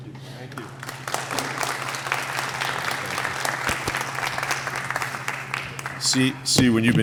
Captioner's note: applause